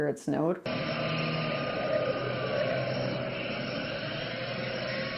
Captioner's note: siren wailing